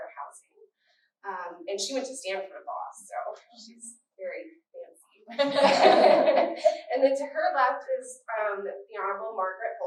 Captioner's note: laughter